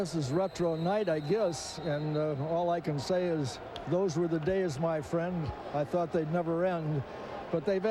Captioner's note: whistle